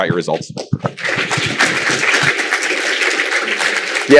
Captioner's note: applause